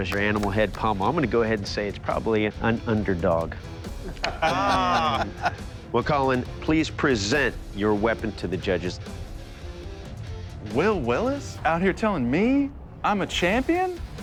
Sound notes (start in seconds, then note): 3.9 laughter